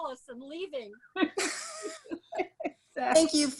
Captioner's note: laughs